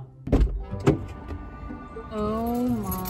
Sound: door opens

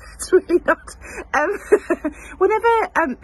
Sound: she chuckles

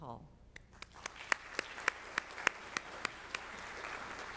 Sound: audience applauds

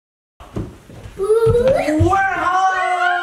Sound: exclaiming

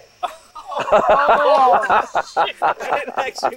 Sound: groaning, laughter

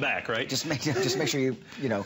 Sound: laughter

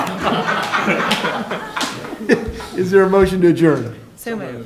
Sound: laughter

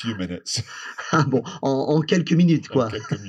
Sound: laughs

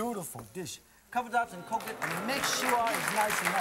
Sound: crowd; applause

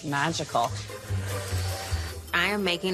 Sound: mixer whirs

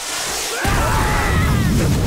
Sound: screaming

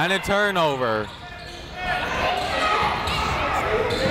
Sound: chatter

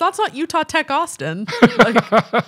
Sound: chuckling

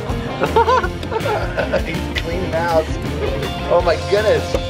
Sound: laughs

